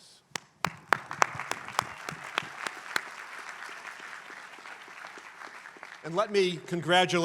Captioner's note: applause